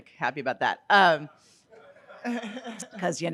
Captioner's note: audience laughing